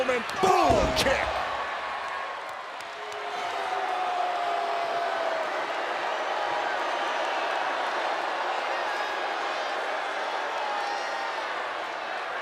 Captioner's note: applause